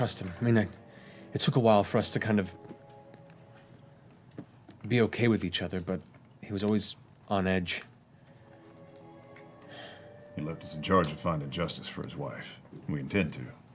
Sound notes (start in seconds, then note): none